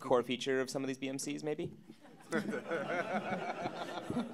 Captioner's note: audience Laughter